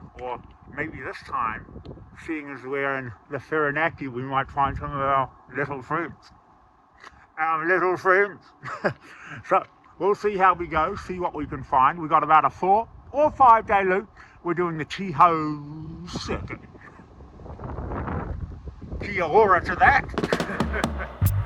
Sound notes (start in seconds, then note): 8.6 chuckles; 17.5 wind whooshing; 20.2 chuckles; 20.3 upbeat music